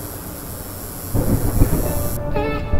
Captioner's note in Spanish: truenos